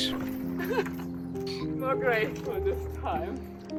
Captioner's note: chuckling